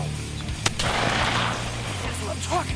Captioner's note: gunshot blast